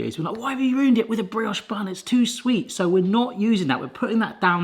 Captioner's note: none